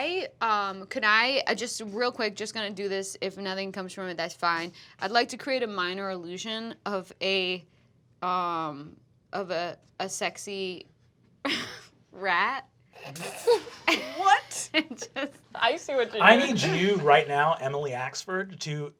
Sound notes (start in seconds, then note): 13.0 laughs